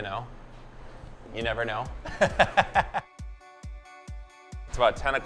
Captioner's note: laughing